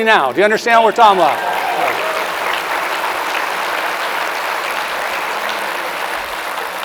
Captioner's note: audience cheers and applauds loudly